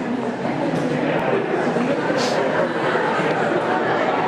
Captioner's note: audience conversing